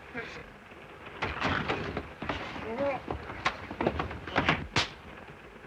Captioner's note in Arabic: صوت صراع; صوت خشخشة القطار